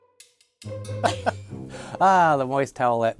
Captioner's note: upbeat music; laughing